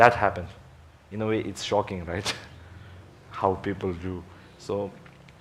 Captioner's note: laughs